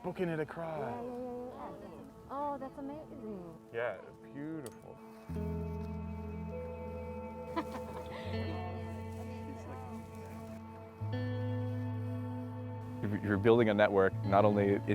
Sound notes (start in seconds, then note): 7.5 woman laughs; 8.7 gentle guitar music